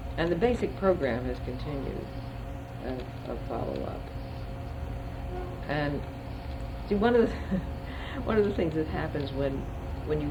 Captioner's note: laughs